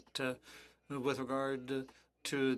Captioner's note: speaking French